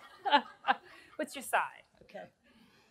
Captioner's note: laughs